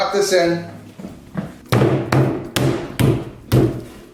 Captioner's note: banging